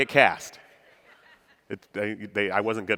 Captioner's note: audience laughing